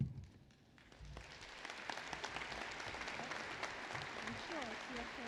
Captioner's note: applause